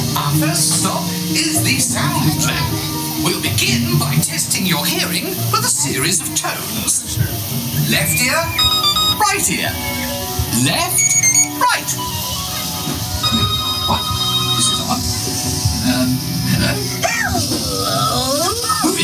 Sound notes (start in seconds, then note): 8.0 high beeping sound; 8.0 low beeping sounds; 10.8 high beeping sound; 10.9 beeping sound